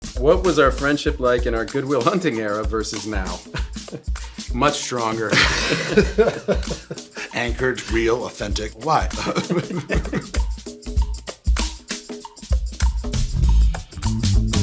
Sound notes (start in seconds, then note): 5.2 Ben and Matt laughing; 9.0 Ben and Matt laughing; 11.2 upbeat music